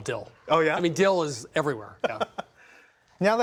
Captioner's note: laughs